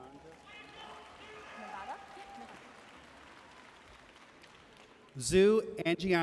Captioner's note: audience cheering and applauding